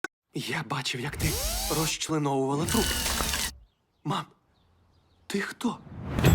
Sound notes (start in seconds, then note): 1.1 drill buzzing; 2.6 buzzing continues